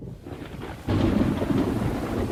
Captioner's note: thunderclap